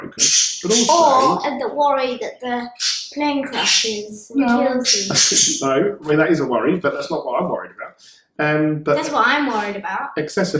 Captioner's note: laughing